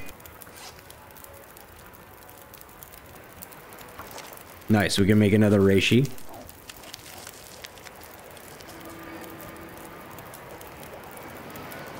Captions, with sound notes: [Zipper Opens] Nice, So we can make another Reishi [Aurora Wolf Barking]